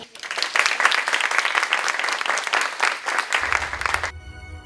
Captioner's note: applause